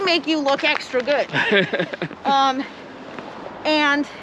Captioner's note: laughs